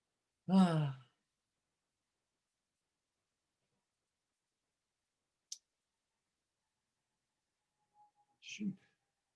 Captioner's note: sighing